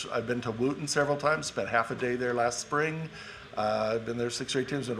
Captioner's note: none